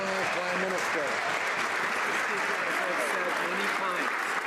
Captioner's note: some Applause